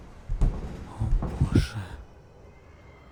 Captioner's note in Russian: шёпотом